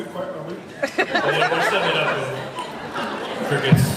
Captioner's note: laughs